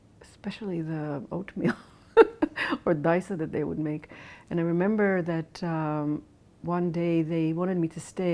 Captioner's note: laughs